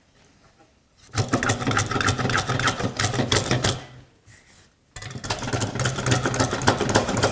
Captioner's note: blade on wood continues rhythmic scraping